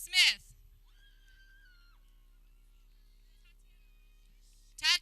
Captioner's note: people cheering